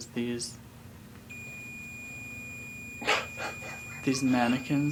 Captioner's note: chuckling; REM Pod ringing